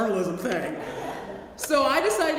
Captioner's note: laugh